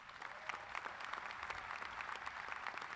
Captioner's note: applause